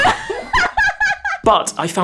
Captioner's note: laughs